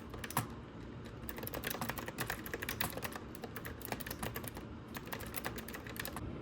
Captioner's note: typing asmr